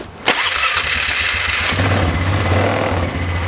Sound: engine starts

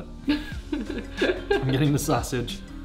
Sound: laughing

